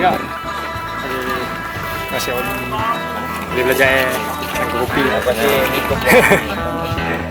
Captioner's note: laughs